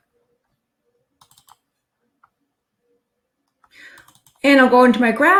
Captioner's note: mouse clicking